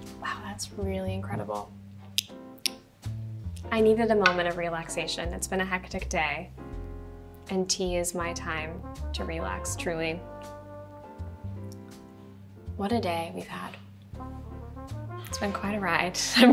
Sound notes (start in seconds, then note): 2.2 lips smack; 10.2 light music; 16.3 Madelaine laughs